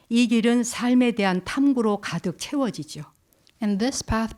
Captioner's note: speaking in Korean